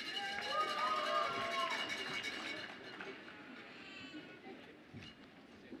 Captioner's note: audience applauds and cheers